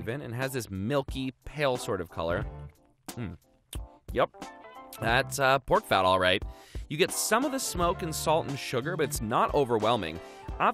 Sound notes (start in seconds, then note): none